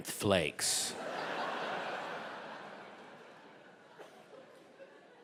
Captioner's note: audience laughing